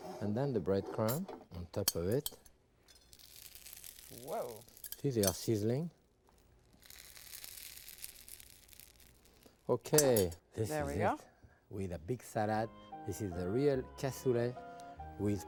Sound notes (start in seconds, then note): 3.4 breadcrumbs sizzling; 7.1 breadcrumbs sizzling; 12.5 serene music